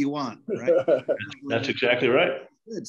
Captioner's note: laughs